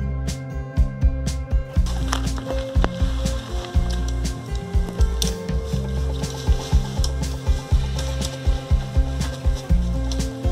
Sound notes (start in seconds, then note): 3.5 tent clip sound